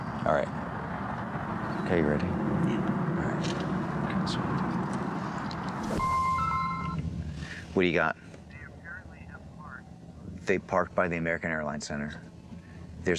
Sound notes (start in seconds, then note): 6.0 phone ringing